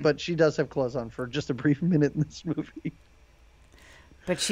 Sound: chuckles

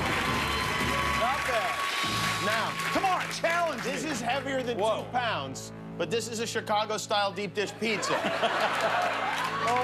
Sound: cheers and applause

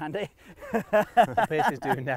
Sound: laughs

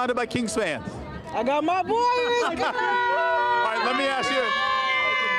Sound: cheering

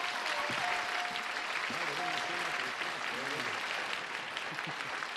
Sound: cheers and applause

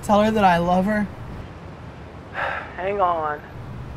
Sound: sighs

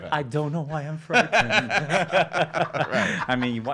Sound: laughing

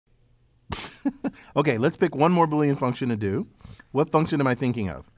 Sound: laugh

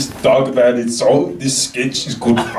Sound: foreign language 00:00:17

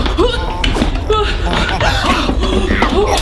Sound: both gasp

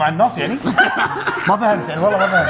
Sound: laughter

